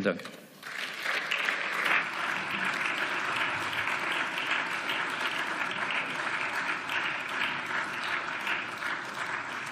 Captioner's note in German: Beifall